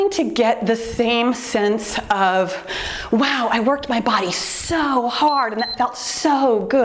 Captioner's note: timer beeps